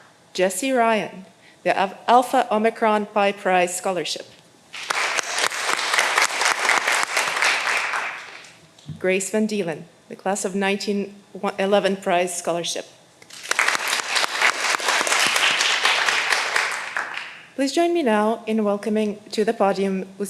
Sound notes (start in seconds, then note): 4.7 all applauding; 13.2 all applauding